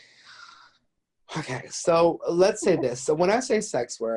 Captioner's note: sighs